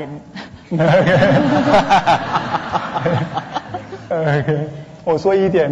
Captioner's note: audience laughter; laughs; speaking Mandarin